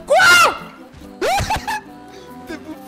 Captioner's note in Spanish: ríete